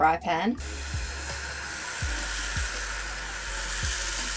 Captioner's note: sizzling